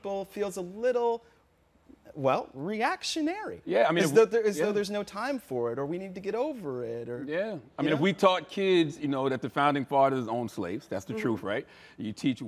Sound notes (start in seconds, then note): none